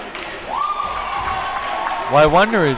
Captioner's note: crowd cheers